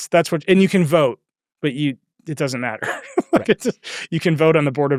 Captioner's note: laughs